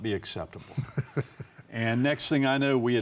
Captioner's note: laughs jokingly